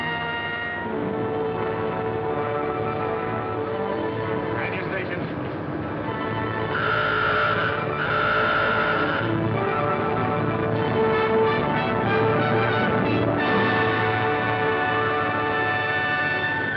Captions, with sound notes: Man your stations. [ALARM SOUNDS]